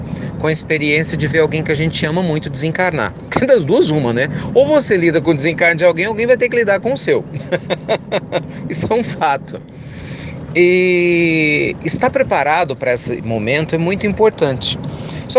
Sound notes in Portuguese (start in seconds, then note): 7.3 Risos